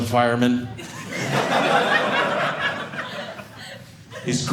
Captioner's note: audience laughing